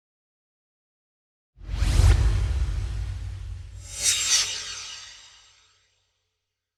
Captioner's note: swoosh